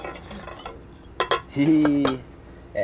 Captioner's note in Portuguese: garrafa girando